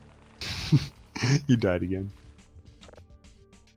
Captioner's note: laughs